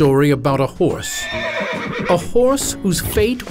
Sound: horse neighs

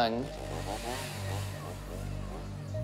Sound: chainsaw revs

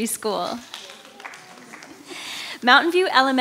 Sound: audience applauding

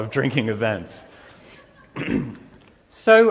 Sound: laughter

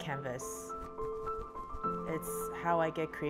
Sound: wings flapping

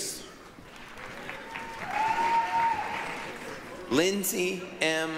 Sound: applause, cheering

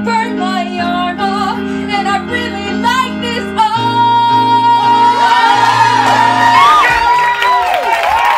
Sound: cheering; applause

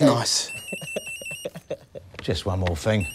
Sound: mobile rings

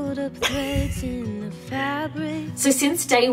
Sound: laughs

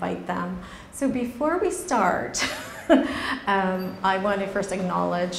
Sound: laughs

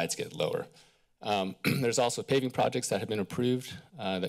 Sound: clears throat

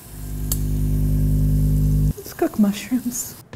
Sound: electrical humming

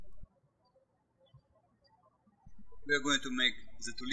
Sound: birds chirping

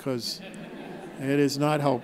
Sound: laughing

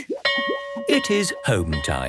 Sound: bell rings

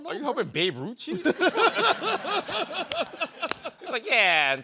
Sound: laughter

